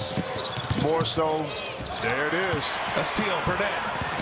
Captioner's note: crowd noise